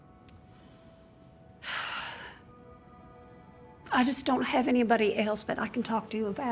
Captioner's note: sighs